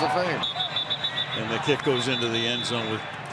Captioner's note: whistle